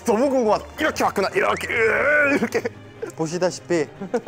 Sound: grunt

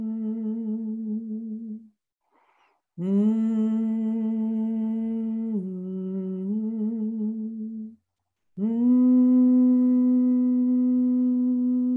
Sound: humming

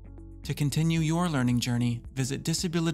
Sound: voiceover

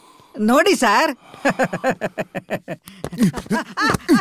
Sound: laughs

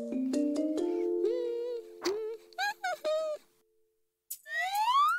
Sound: humming

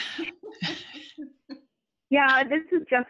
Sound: laughter

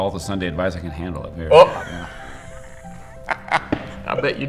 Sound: laughing

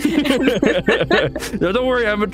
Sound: both laugh

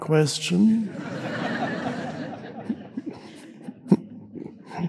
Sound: crowd laughs

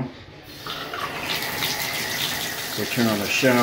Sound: water splashes on the tile

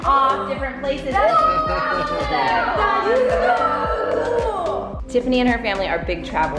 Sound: kids exclaiming excitedly

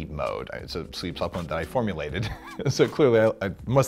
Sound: laughs

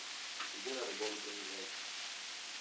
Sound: production chatter

